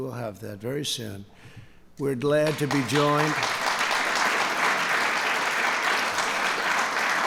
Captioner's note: applause